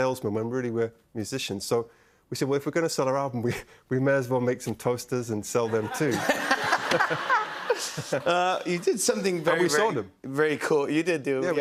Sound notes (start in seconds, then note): 5.7 laughter